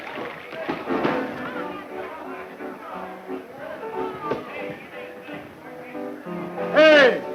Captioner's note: boisterous patrons; cheerful nostalgic music